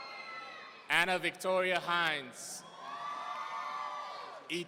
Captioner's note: audience cheering; audience cheering